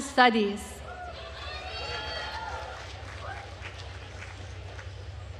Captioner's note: attendees applauding